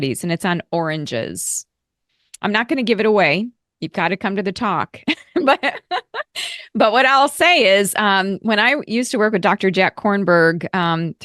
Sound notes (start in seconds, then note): 5.1 laughing